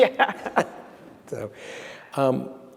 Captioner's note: laughs